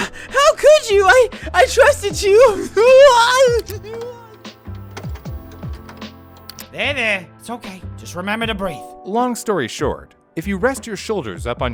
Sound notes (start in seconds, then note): 2.0 distressed Chill noises